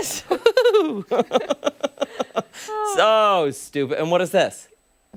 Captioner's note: laughter